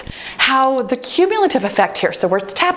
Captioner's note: timer beeps